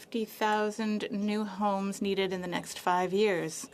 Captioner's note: speaking French